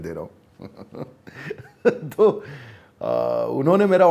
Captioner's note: laughs